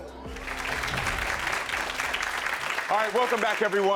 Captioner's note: audience applauds